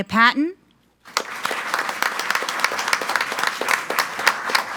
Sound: group applauding

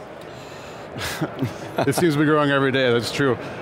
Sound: laugh

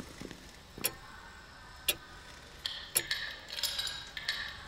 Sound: clock ticking

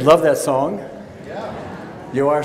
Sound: voiceover

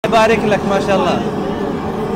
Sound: Arabic

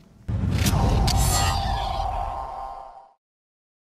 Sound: air swooshing

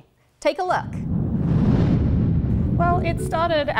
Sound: rocket whooshing; gentle music

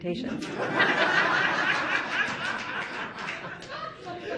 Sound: audience laughing

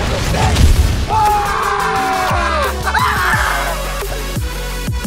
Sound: primal Screaming

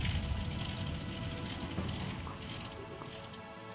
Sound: engine sputters

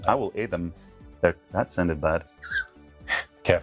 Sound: laughs

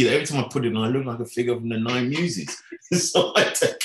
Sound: laughing

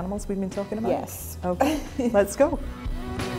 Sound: laughs

